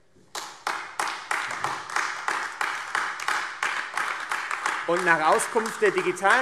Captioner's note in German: Beifall AfD